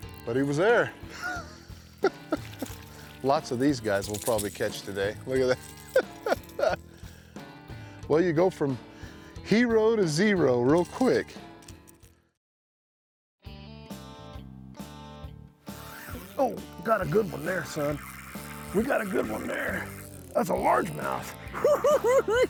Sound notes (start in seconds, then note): 1.1 chuckle